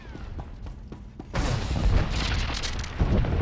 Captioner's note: gunfire